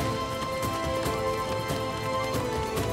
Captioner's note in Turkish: Rüzgâr sesi